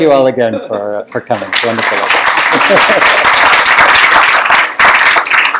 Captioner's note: applause